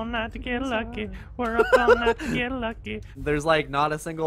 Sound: laughs

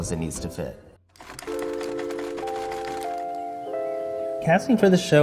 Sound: air clacks

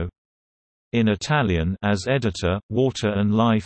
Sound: in Italian

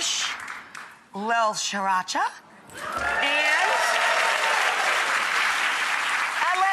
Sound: audience applauds

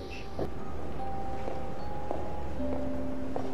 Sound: footsteps

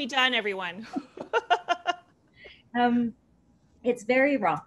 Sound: laughter

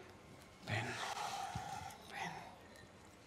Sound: sighs

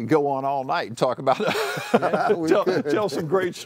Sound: laughter

